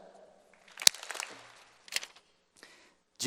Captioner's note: applause